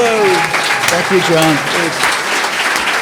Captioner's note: audience cheering and applauding